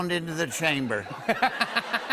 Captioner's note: laughter